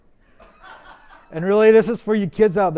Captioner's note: audience laughs